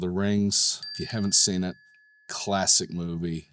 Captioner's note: tone dings